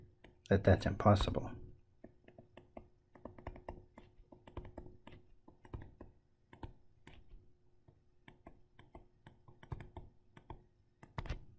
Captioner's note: tapping Sounds